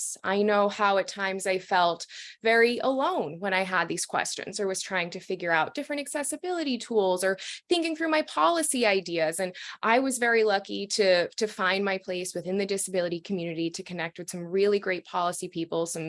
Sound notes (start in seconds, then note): none